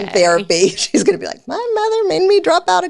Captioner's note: laughs